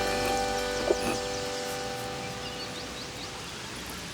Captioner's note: birds chirp